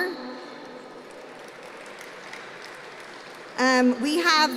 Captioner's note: applause